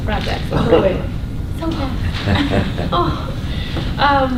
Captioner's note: laughter